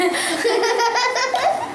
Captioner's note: giggle